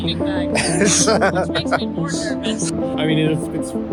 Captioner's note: laughs